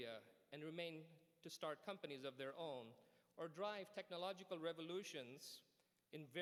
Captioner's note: none